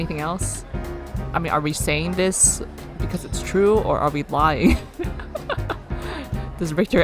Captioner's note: laughs